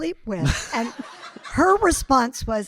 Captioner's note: audience laughing